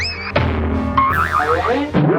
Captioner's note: cartoonish DONK noise; cartoonish boing noise; cartoonish windup noise; cartoonish leaping noise; cartoonish miss noise